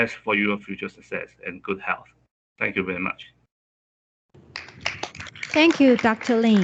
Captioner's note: applause